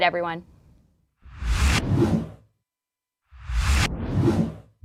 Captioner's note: wind whooshing